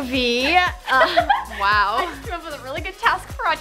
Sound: giggles

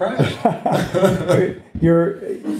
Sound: laughing

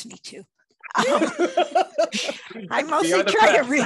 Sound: laughing

